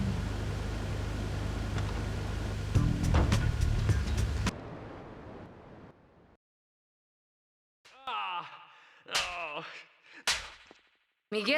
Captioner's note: explosion; groaning